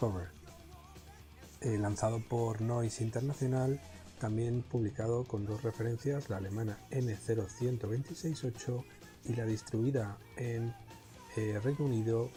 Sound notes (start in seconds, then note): 7.5 German